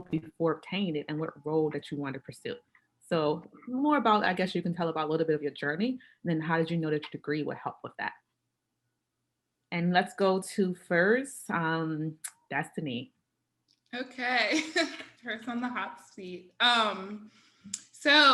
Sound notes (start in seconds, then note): 14.5 chuckles